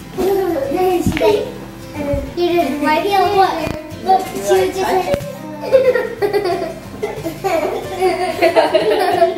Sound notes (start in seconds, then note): 0.0 children talking in background; 5.6 laughter